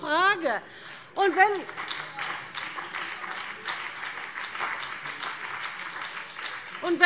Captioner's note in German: Beifall CDU, BÜNDNIS 90/DIE GRÜNEN und DIE LINKE